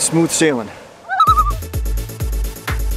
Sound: loon call

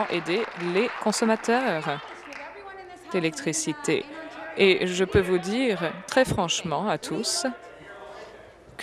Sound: applause

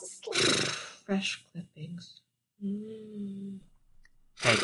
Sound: Trash-chan yawns; snoring

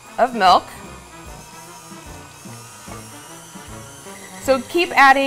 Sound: mixer whirring; upbeat music

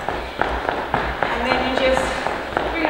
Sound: feet tapping

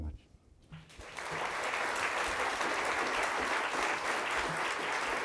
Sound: audience applauding

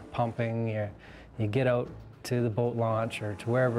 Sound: voiceover

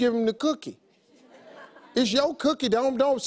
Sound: audience laughs

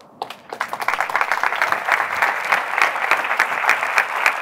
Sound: applause

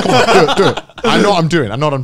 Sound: laughing

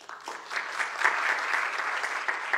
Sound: applause

